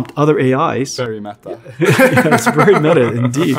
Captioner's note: laughs